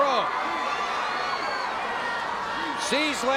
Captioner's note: audience cheering